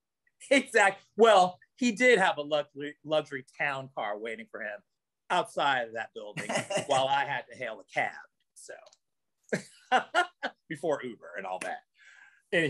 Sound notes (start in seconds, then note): 6.3 laughs